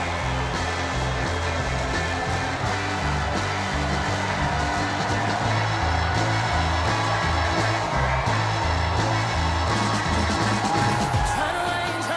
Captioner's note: cheers and applause